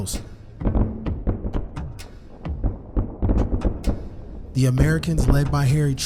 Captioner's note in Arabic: انفجار ذخائر بعيدة